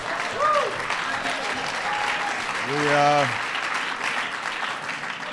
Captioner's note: laughter and applause